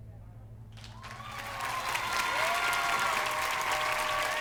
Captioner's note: cheers and applause